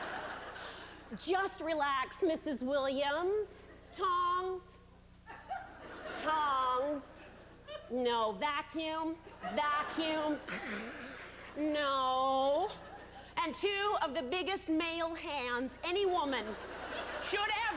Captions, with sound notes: "JUST RELAX, MRS. WILLIAMS, "TONGS, TONGS, "NO, VACUUM, VACUUM, [slurping sound] NO..." AND TWO OF THE BIGGEST MALE HANDS ANY WOMAN